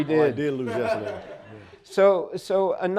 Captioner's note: audience laughing